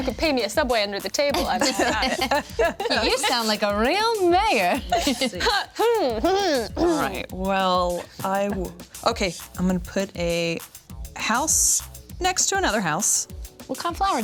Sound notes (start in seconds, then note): 1.3 everyone laughs; 5.9 other loudly clear throats